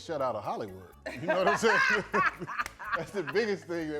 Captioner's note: both laughing